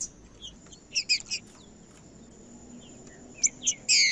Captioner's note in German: trinca ferro cantando